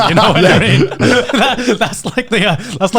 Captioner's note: laughing